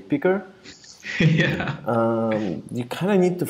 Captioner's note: laughs